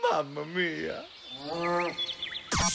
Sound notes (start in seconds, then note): 1.8 birds chirping